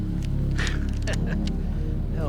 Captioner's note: chuckles